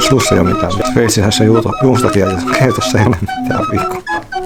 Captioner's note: rambling